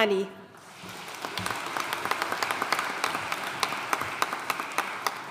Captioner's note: audience applauding